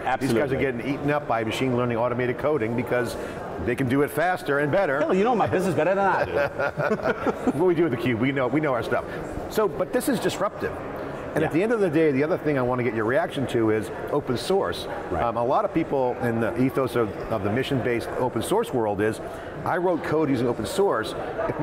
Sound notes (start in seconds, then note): 5.9 both laugh